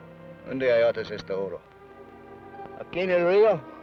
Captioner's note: Ben speaks foreign language